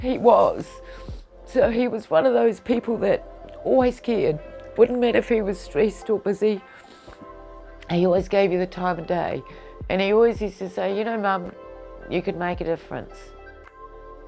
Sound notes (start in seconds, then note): 6.6 sniffling